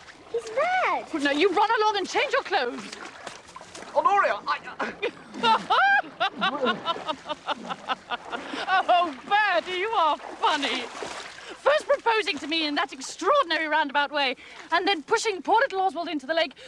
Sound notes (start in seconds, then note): 4.7 laughs